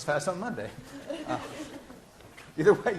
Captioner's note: laughter